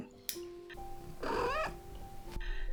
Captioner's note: Soot trills